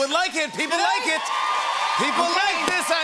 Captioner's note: cheers and applause